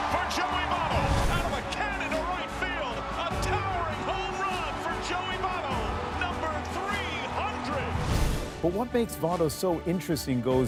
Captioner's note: cheers and Applause